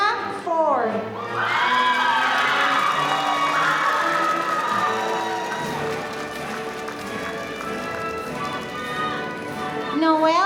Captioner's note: applause